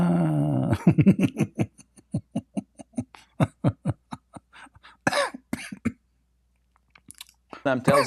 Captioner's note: Ketawa